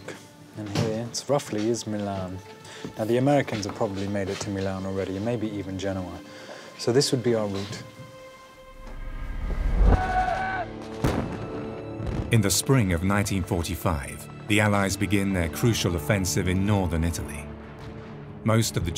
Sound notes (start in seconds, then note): 8.7 explosions pop; 9.9 soldiers yell